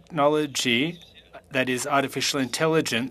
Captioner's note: speaking FRENCH